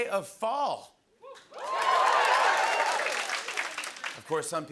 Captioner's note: cheers and applause